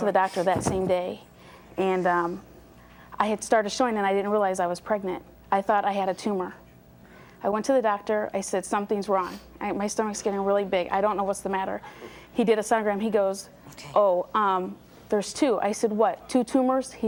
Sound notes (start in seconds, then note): none